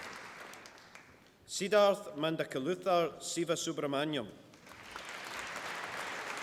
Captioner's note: applause